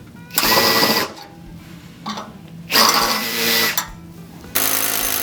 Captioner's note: drill whirring